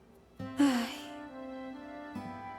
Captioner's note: sigh